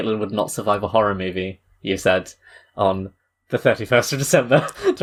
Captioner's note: laughs